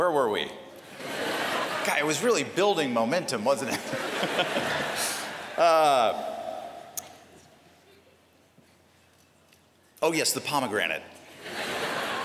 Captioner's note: laughter